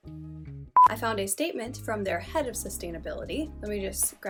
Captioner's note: beep